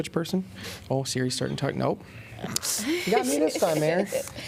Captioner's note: laughter